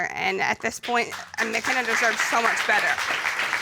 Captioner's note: applause